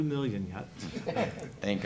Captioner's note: laughter